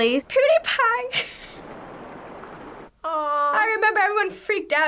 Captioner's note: laughs